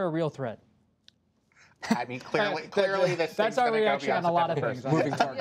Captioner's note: laughter